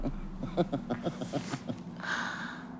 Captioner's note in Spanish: Risa malvada